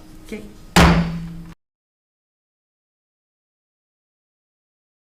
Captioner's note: gavel slams the block